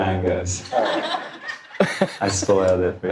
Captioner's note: audience laughing